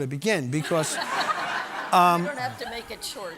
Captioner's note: audience laughing